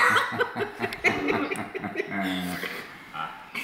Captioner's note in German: alle lachen